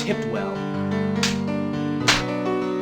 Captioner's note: louder slap; slap